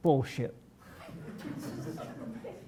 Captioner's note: laughter